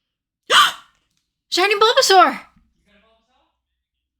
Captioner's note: gasp